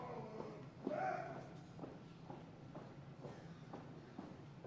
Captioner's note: feet tapping